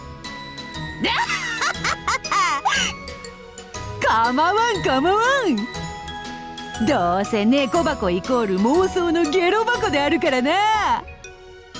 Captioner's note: cackle